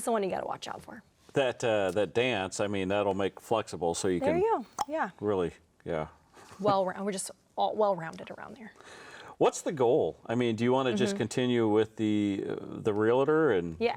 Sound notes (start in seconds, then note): 4.7 clicks tongue